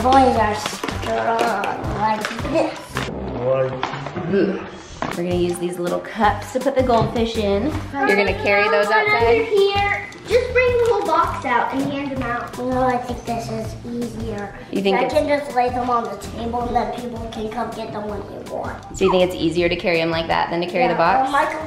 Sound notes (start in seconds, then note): 3.6 deep Voice